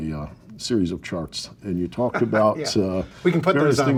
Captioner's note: laughs